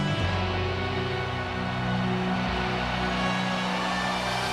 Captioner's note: audience cheering